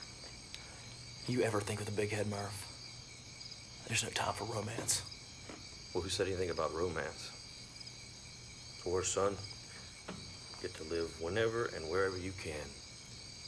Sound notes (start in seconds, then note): none